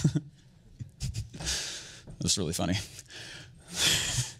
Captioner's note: chuckles